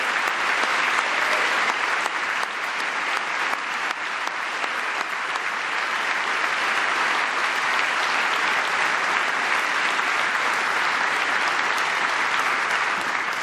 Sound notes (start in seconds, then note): 0.0 applause